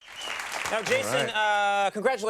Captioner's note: applause